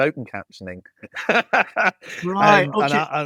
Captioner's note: laughs